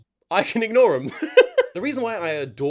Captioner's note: laughs